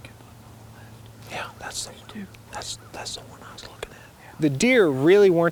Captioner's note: whispering